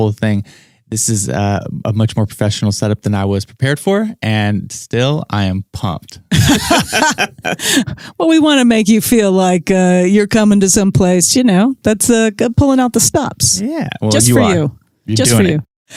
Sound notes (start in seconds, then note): 6.4 laughs